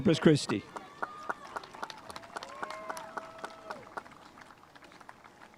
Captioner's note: spectators applauding